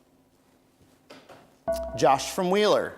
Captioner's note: bell rings